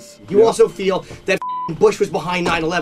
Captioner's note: beeping